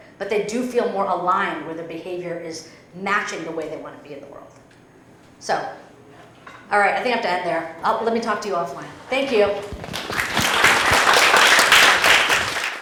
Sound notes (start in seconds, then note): 9.6 applause